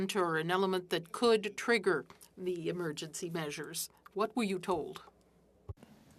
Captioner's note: speaking French